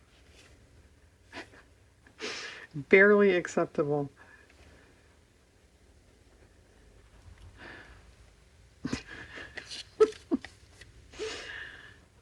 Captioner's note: laughs